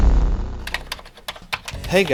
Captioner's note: keyboard typing